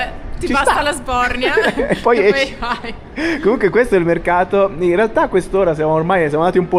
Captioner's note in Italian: risate